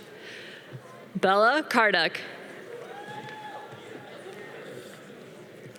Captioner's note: audience cheering